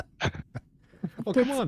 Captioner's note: laughs